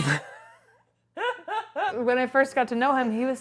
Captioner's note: laughing